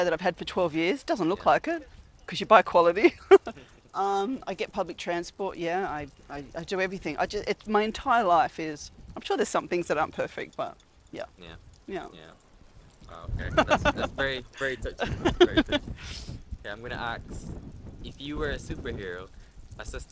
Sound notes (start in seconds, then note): 13.2 laughs